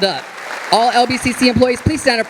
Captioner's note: audience applauding